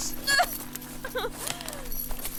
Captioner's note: pained yelp; handcuff chain strains; panting